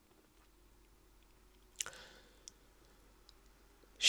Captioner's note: sigh